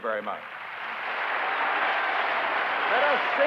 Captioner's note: applause